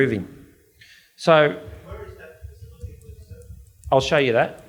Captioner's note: audience member murmurs